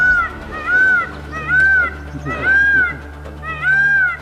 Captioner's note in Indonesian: berteriak